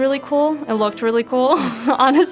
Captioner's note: laughs